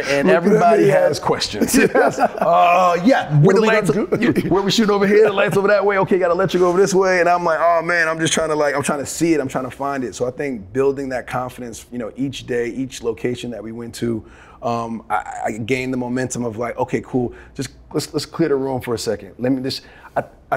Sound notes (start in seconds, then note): 1.6 both laughing